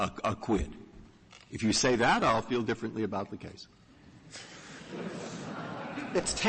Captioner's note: laughter